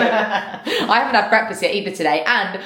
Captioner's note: both laugh